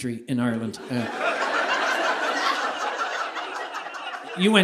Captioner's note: audience laughing